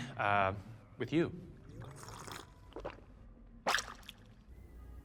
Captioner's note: slurp, gulp